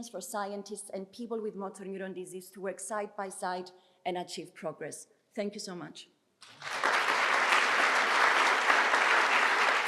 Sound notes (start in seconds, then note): 6.4 applause